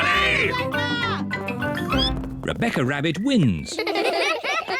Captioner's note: all shout encouragement; squeaks; all laugh